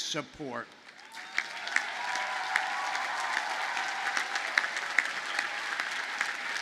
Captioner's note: audience cheers and applauds